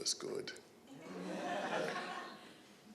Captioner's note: chuckling